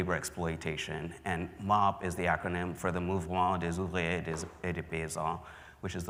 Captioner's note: speaking french